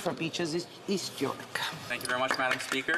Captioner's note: some Applause